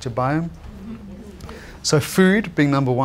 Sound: audience chattering

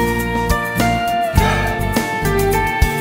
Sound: Rohit exhales

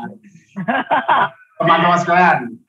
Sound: laughing

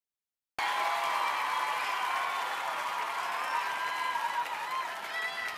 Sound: audience cheering

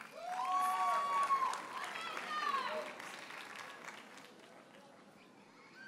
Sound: audience cheers and applauds

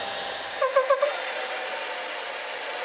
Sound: short squeaking

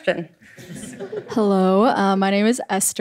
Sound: audience chuckles

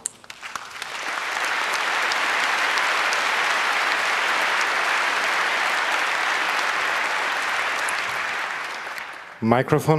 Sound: applause

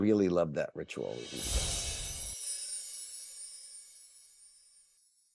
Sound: graphic whooshing

